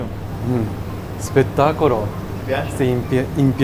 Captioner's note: Italian